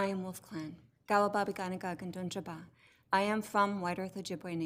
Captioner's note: speaks foreign language